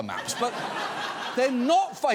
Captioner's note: audience laughs